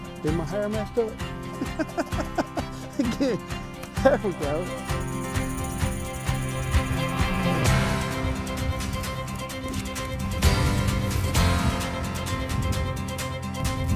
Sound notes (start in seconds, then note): 1.5 laughs; 5.9 upbeat music